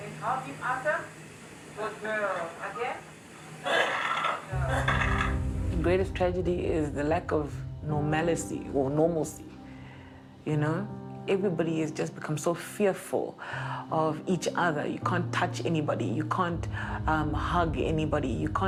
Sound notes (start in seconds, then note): 3.6 patient coughs; 4.5 worrisome music